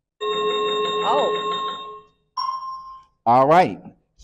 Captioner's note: chiming sound effect